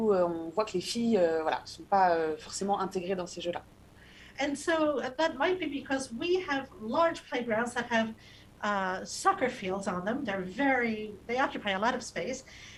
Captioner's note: speaking non-english